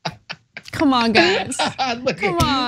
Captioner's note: laugh